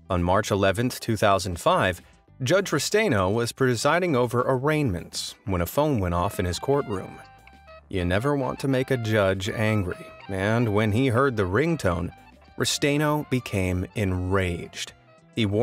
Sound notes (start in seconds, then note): 6.3 phone ringing